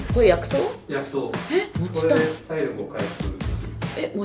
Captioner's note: eh!